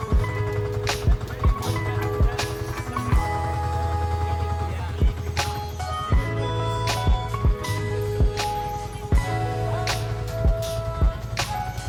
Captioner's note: friendly background conversations